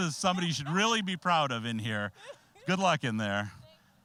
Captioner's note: laughing